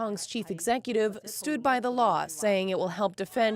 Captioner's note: speaking foreign language